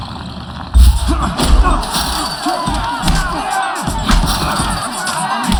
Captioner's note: grunting, cheering